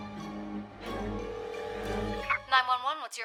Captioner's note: phone ringing